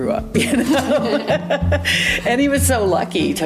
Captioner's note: laughs